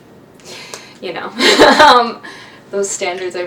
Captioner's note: laughs